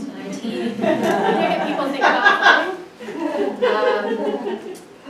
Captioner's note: audience laughs